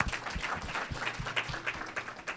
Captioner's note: applause